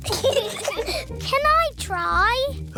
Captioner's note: peppa and george giggle